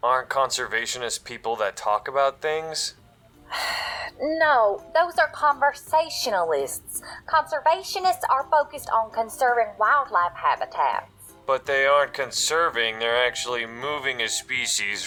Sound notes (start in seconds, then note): 3.5 sigh